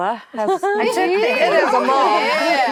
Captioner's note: actresses reacting